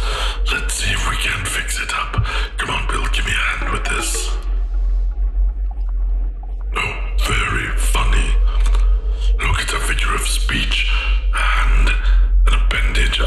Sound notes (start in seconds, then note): 3.3 beeps an amused response